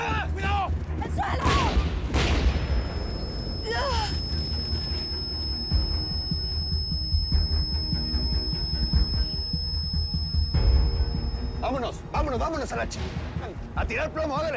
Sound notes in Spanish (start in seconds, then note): 1.4 Explosión; 2.9 Sonido agudo